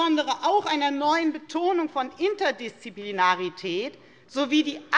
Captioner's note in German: none